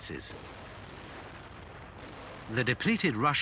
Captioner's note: guns firing